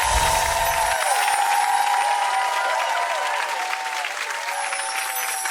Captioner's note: audience applauds and screams